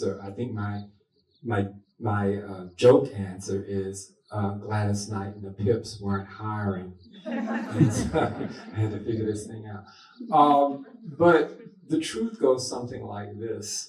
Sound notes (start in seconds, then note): 7.2 laughter